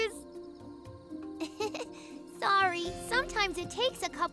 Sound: chuckles

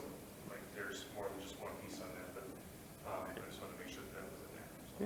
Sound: speaks faintly

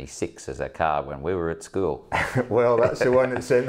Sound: chuckles

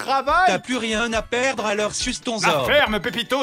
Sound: computer-generated voice

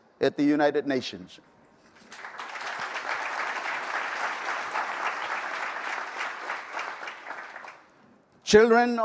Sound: applause

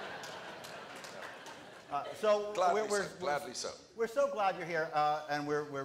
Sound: applause

